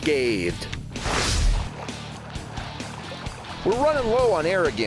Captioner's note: swooshing